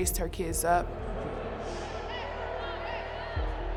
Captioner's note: crowd yelling